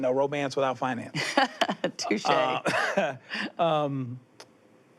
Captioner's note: laughs